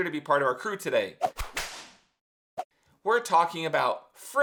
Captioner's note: whip crack